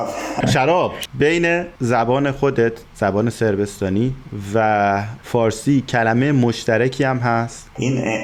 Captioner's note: Serbian